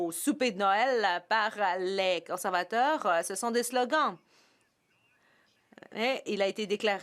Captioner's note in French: voix de l'interprète